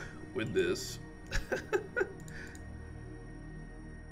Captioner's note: laughs